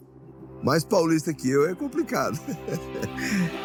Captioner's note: laughs